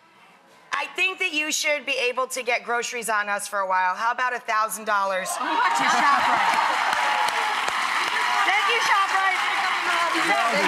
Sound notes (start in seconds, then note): 6.8 audience cheers